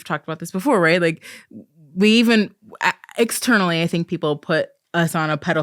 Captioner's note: stammering